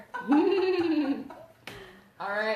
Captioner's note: laughs